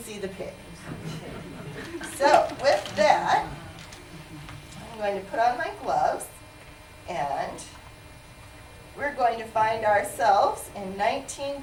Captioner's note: laughter